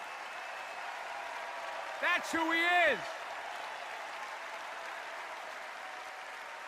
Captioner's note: extended cheers and applause